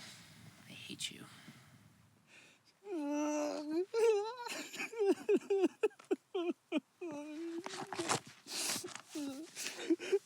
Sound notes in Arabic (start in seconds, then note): 2.8 بكاء